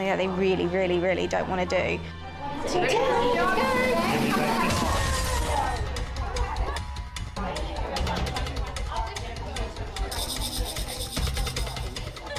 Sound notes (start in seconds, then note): 4.0 drum roll; 5.0 dramatic music; 5.0 people chattering